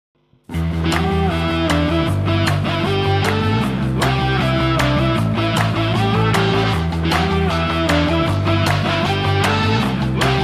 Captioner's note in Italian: Applauso